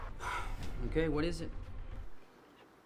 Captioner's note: sighs